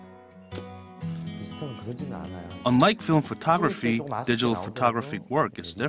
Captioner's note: Korean